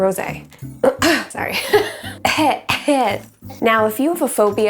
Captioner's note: coughs